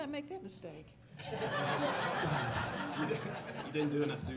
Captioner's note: laughter